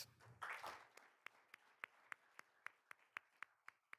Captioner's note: all applauding